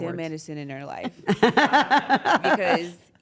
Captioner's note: laugh